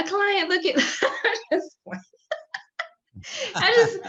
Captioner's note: laughs